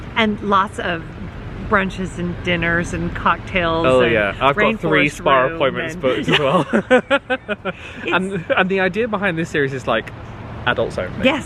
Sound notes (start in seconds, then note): 5.8 both laughing